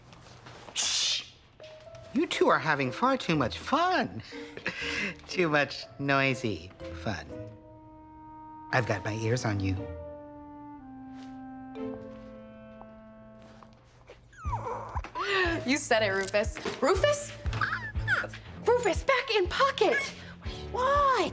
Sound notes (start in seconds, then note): 14.1 Rufus squeaking